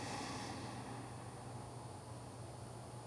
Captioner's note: deep breath